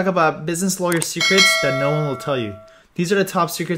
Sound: bell dings

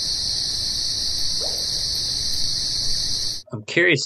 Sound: bubble pop

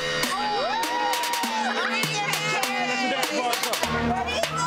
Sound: rhythmic music; crowd cheering

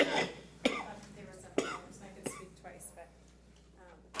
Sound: coughing

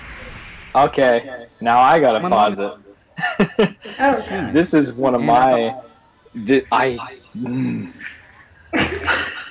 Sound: growling in anger

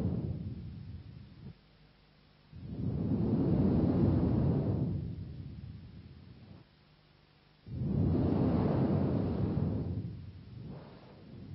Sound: Shri Mataji blows into the microphone

